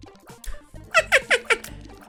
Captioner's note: elmo laugh